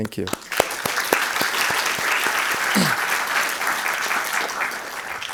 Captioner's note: crowd applauding